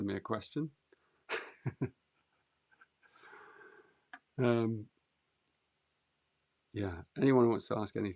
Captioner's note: laughs